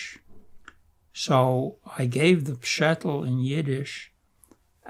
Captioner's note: yiddish